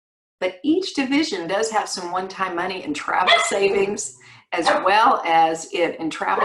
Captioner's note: dog bark